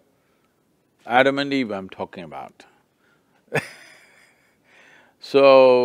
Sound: laughs

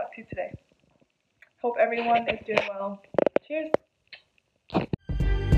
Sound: kiss

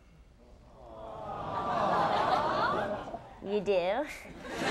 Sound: audience awing

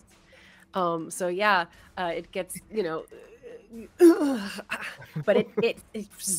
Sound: grunts

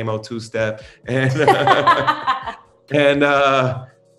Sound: laughs

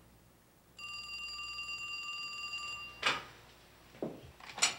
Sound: phone rings

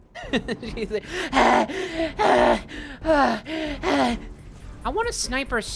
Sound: laughing; over exaggerated heavy breathing

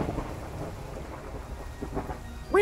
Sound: thunder crack

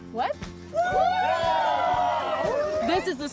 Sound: cheering

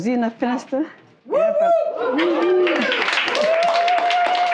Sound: crowd; cheers and applause

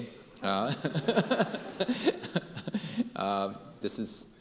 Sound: Dr. Chu and audience laughing harder

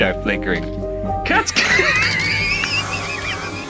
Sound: laughing

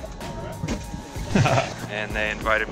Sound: laughs

